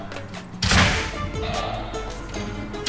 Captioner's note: bang